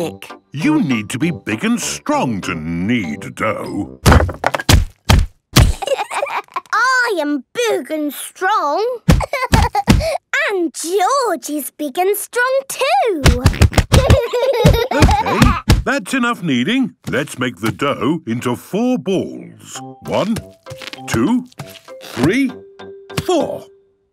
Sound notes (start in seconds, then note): 4.0 banging; 9.1 banging; 13.4 banging